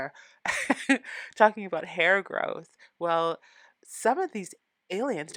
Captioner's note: laughing